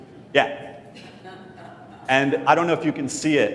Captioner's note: laugh